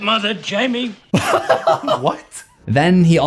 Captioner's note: laughs